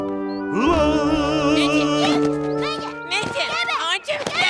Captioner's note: happy singing; boy and girl arguing